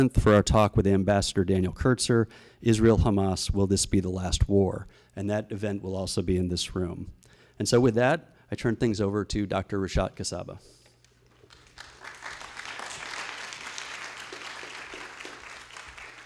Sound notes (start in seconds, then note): 11.3 applause